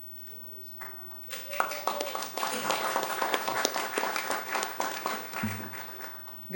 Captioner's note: applause